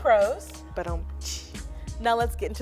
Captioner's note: mimicking rimshot